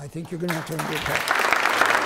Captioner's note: applause